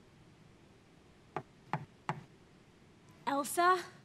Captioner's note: knocking at door